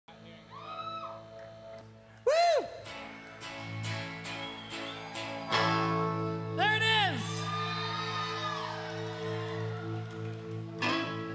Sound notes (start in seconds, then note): 0.5 crowd cheering; 2.5 cheering; 4.2 guitar strumming; 7.9 crowd cheering